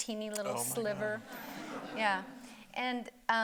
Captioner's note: audience laughing